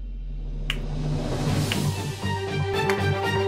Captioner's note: clapping